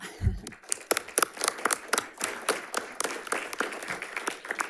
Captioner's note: audience applauds